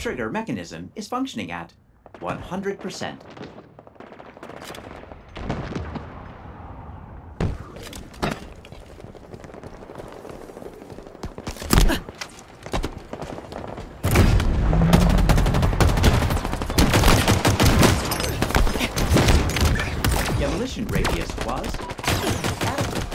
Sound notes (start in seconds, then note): 11.2 grunts; 14.0 gunfire